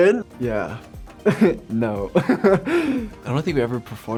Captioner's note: laughs